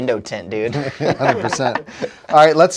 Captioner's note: all laughing